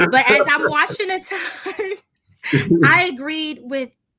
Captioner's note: laughs softly